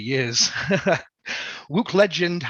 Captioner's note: laughs